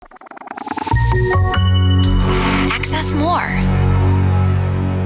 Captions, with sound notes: (bright music) - [Voiceover] AccessMore.